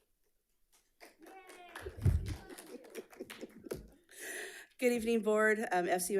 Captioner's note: audience clapping